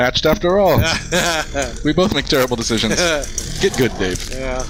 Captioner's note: laughing